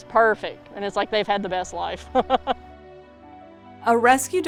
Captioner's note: laughs